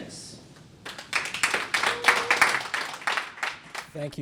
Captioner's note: applause